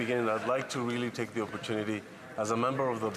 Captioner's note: speaking French